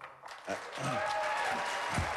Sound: applause

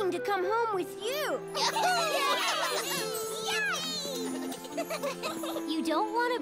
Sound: care bears cheer

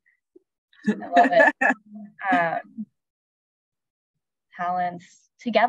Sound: laughing

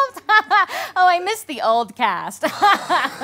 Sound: laughs

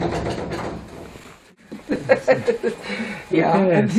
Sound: laughter

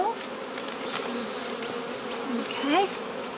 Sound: bees buzzing

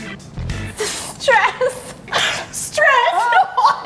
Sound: laughing

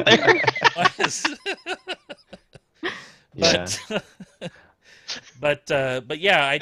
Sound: laughter

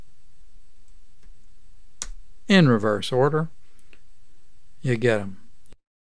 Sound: clicking

